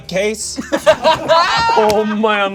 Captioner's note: group laughs